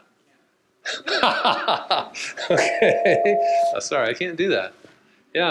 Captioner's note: laughs